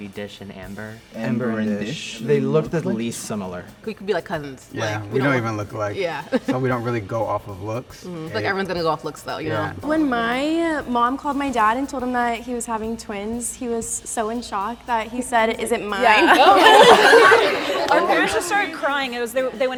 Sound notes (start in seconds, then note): 6.4 laughs; 16.0 crowd laughs